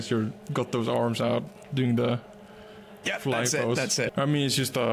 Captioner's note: laughs